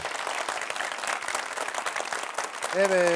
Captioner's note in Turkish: alkış